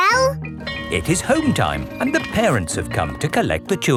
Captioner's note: bell tolling